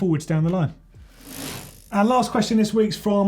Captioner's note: bike wheel spinning